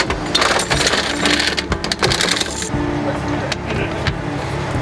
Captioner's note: car crackling